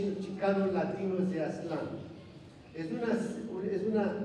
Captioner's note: non-english speech